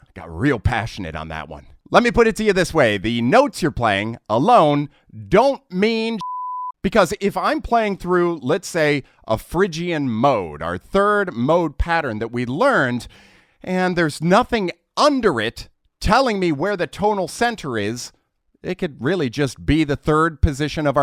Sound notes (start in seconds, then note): 6.2 beep